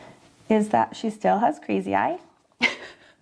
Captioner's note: chuckles